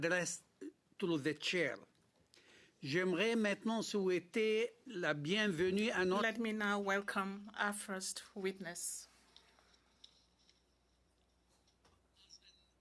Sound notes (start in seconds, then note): 6.3 speaking in French